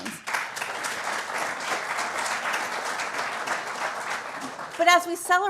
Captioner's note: applause